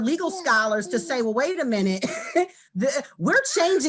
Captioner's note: chuckles